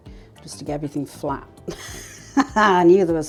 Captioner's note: laugh